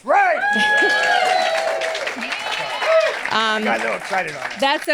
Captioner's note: audience cheers and applauds